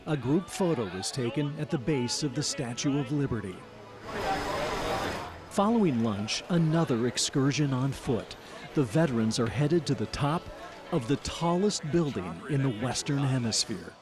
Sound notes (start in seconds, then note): 3.7 walking